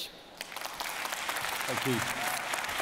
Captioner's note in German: applause